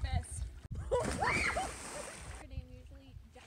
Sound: splash and scream

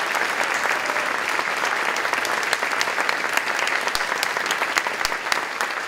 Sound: applause

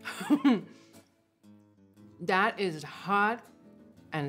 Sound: laughs

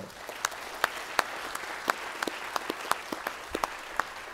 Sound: applause

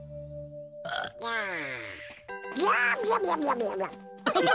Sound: gulp; burps

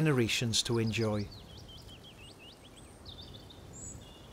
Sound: gentle birdsong

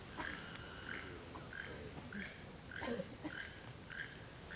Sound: wildlife noises

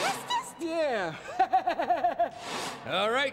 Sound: laughs

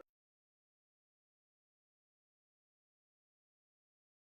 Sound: silence

